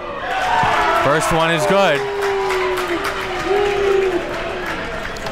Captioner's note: crowd cheers